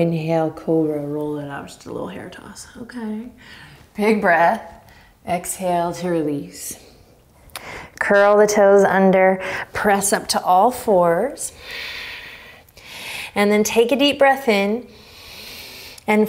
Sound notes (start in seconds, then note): 11.8 exhaling strongly; 14.9 inhaling deeply